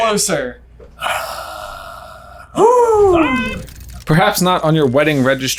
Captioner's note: sighs